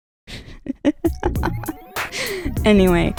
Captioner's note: laughing